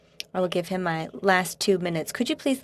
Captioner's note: speaking French